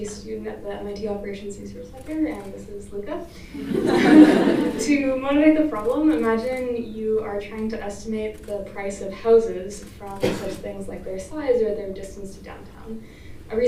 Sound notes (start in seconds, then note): 3.6 laughter